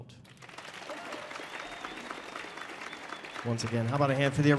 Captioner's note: audience applauding